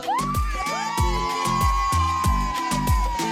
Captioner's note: audience cheers; upbeat music